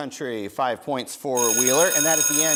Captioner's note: bell rings